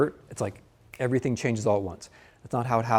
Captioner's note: snaps fingers